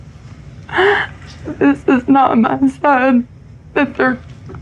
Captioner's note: sobs